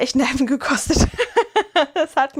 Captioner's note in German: gelächter